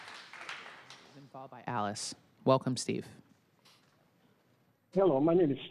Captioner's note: applause